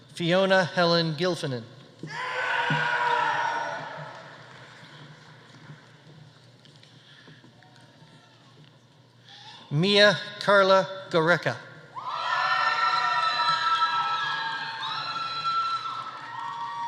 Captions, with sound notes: Fiona Helen Gilfillan. (audience applauding) (audience cheering) Mia Carla Goericke. (audience cheering)